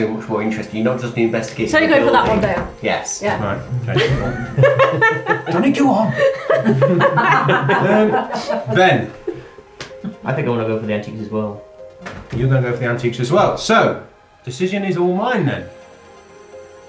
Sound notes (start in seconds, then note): 3.3 laughing